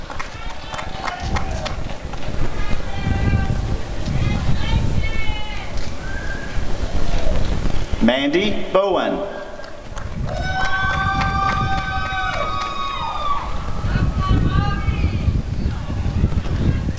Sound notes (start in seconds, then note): 0.0 applause and cheering; 11.5 applause and cheering